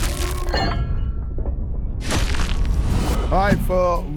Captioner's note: metal clanging